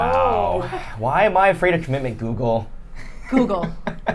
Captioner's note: laughing